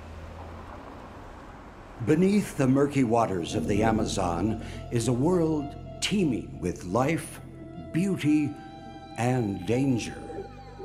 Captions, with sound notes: - [Voiceover] Beneath the murky waters of the Amazon, is a world teeming with life, beauty, and danger.